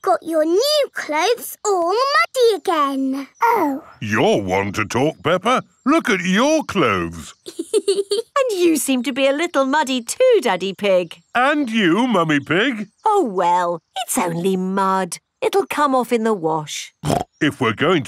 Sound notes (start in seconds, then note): 6.0 laughs